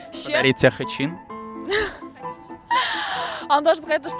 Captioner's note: laughter